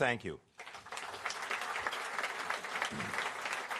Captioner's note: applause